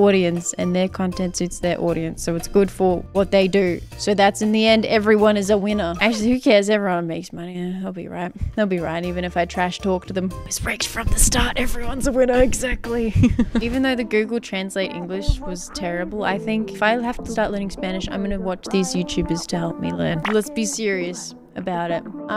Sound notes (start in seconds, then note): 10.3 whispering